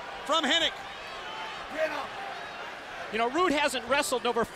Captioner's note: crowd chatter